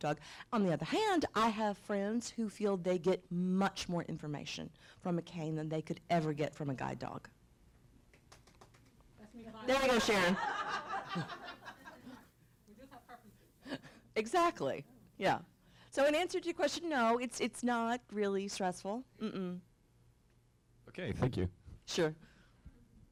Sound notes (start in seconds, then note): 12.6 laughter